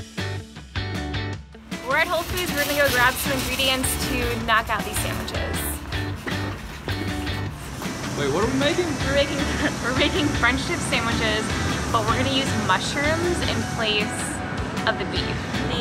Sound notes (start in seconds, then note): 0.2 upbeat music; 5.5 upbeat music; 9.8 laughs